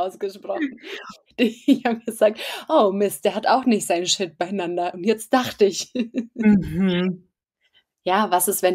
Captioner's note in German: lachen; lacht